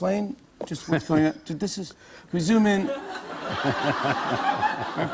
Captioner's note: laughter